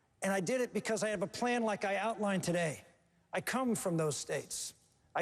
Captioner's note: none